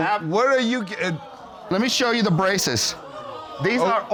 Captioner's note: audience groaning